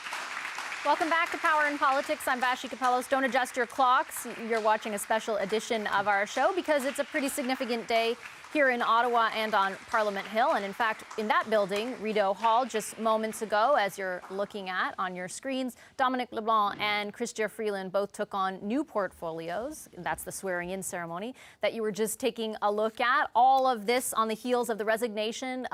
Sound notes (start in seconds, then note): 4.3 applause